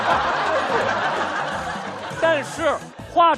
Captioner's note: laughing out loud